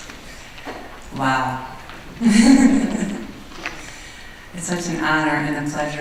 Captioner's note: laughing